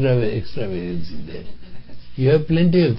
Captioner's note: laughter